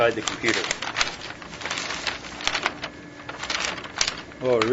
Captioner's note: paper rustling